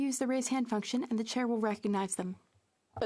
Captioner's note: speaking French